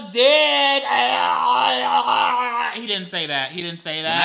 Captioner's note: gags